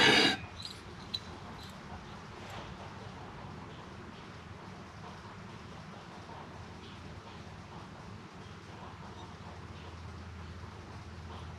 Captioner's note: panting